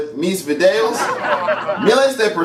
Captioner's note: laughter